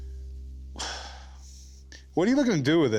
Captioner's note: sighs